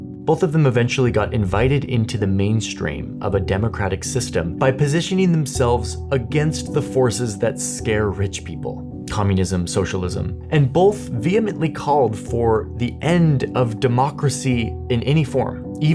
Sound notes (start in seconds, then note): none